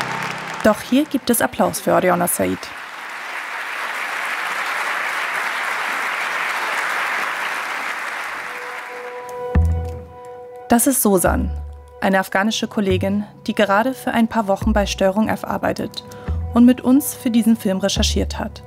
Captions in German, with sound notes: Doch hier gibt es Applaus für Aryana Sayeed. (Tosender Applaus) Das ist Sosan, eine afghanische Kollegin, die gerade für ein paar Wochen bei STRG_F arbeitet und mit uns für diesen Film recherchiert hat.